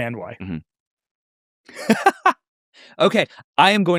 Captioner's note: laughs